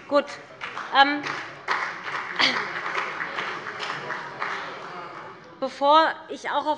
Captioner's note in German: Beifall bei dem BÜNDNIS 90/DIE GRÜNEN und der CDU - Unruhe bei der SPD